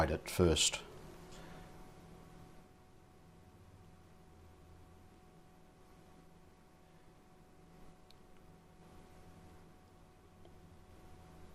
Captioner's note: silence